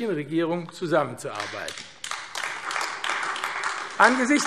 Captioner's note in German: Beifall AfD